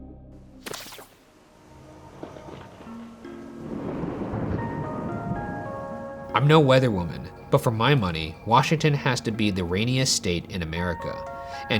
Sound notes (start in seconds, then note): 3.6 thunder cracking